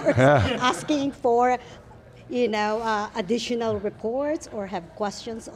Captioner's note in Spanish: Risas del grupo